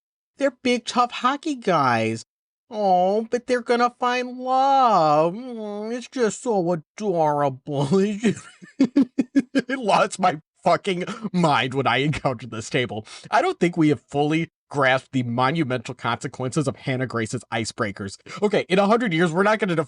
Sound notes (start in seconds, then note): 8.0 giggles